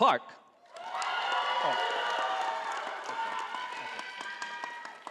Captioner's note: audience applauding